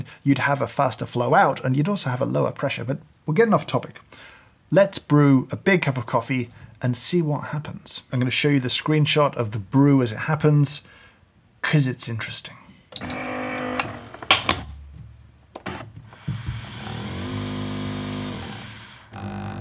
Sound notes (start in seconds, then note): 13.0 machine whirring